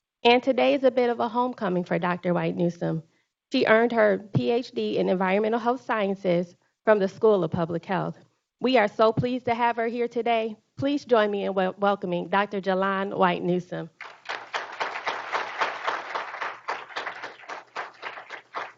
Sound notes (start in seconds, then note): 13.9 group applauding